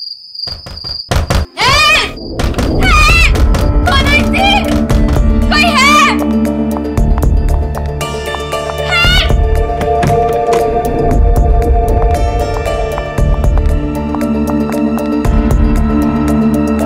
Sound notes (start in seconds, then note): 0.4 Door banging; 9.7 Door opens